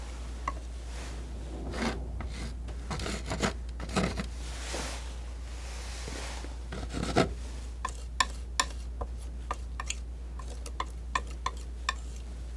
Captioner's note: scratching